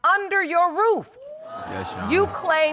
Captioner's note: audience exclaiming